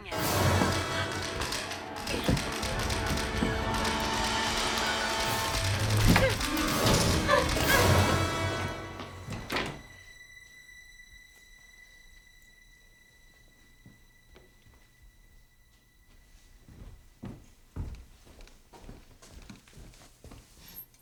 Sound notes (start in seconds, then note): 0.3 camera clicking; 0.3 sharp climactic music; 5.8 grunting; 17.0 footsteps approaching